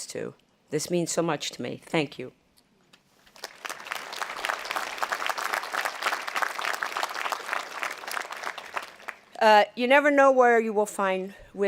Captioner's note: audience applauding